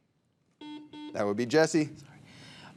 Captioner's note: buzzer beeping